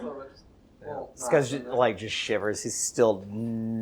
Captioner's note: laughing